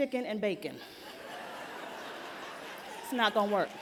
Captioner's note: laughter